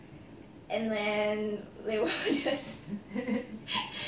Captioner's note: laugh